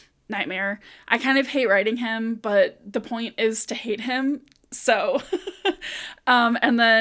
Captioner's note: laugh of suffering